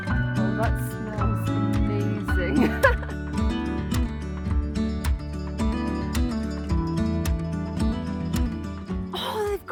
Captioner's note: gentle guitar music; laughing; gentle guitar music